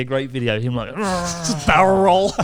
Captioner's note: groaning